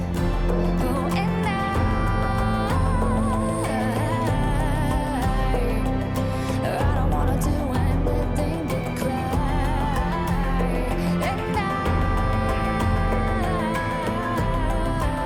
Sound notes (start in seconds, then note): none